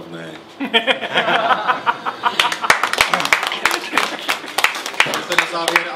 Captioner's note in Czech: potlesk